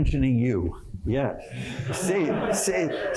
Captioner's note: laughter